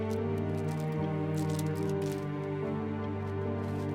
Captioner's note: rosary rattling